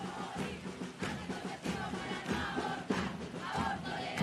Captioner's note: chanting